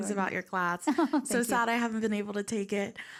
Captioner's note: laughs